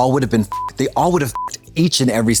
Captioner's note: beep